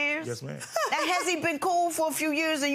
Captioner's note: laughing